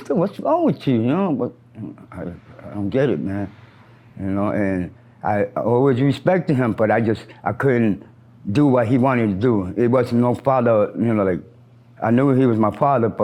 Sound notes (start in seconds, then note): none